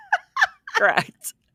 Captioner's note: both Laughing